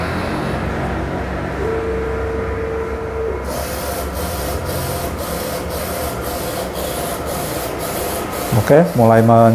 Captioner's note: printer machine noise